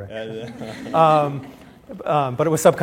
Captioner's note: laughter